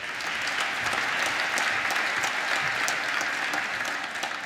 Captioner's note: applause